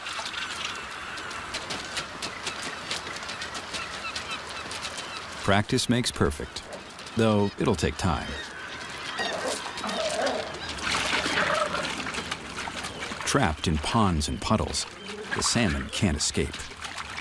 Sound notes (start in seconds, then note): 1.3 bear footsteps on rocks; 8.5 gulls chirping; 10.9 salmon flops in water